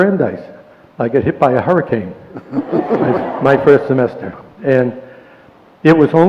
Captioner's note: laughter